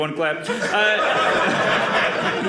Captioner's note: audience laughing